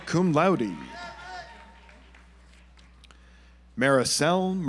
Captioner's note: audience applauds